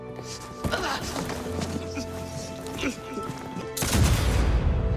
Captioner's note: somber music; characters grunting; gun booms